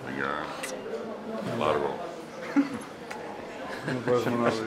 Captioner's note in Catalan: Risas